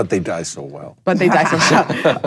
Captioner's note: laughing